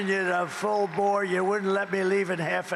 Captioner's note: cheering